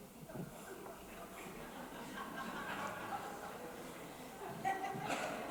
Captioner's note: audience laughs